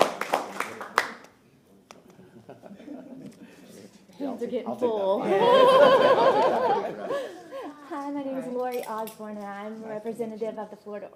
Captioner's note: applause